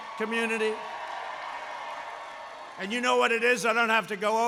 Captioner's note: applause